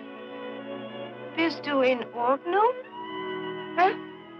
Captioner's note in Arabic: الصوت المنطوق باللغة الألمانية